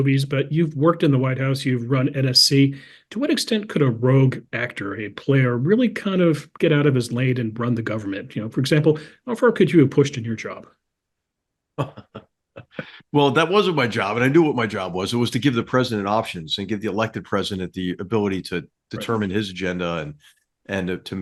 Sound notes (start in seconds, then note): 11.8 laugh